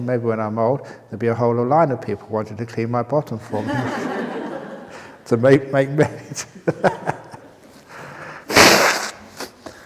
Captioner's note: laughter